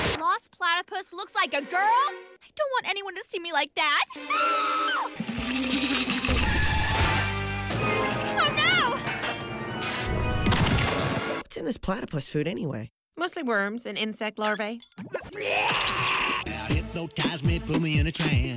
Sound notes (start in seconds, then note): 4.2 screams in public humiliation